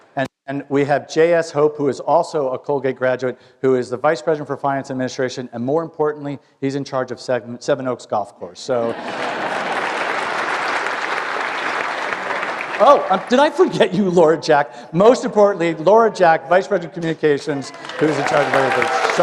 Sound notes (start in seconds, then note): 8.9 applause